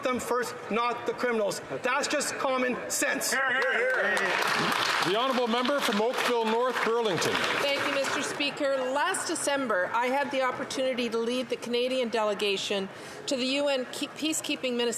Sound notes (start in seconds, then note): 8.3 some Applause